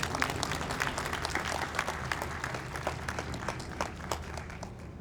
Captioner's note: audience applauds